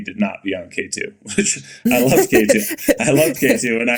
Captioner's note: Mikaela laughing